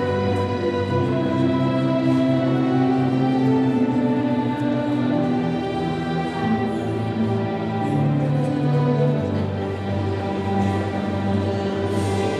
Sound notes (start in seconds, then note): none